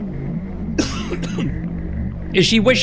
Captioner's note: coughs